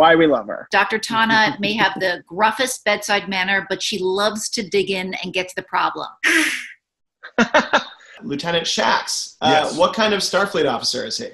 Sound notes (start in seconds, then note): 7.2 laughs; 7.3 hisses